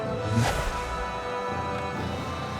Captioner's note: energy rushing out